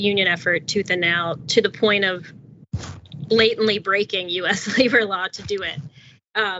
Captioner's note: laugh